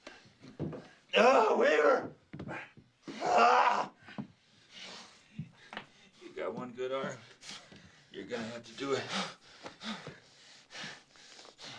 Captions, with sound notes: OH, WEAVER! [groaning] YOU GOT ONE GOOD ARM. YOU'RE GONNA HAVE TO DO IT. [panting]